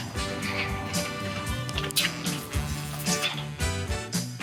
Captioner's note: upbeat music continues; gate clanking